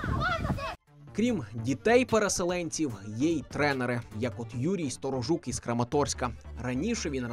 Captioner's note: voiceover